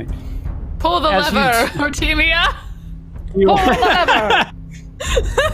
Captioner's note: laughing